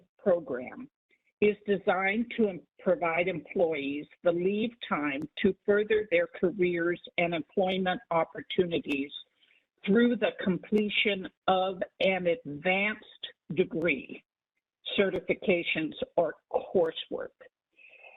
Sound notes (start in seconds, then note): none